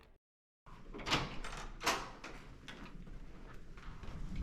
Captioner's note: door opening